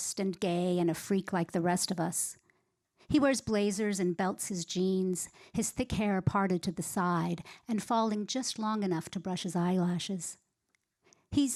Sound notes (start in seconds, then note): none